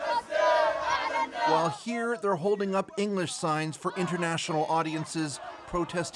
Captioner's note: chanting